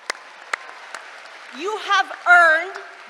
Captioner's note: applause